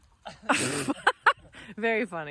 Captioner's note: laughs